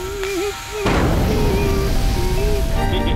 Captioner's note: volcano erupts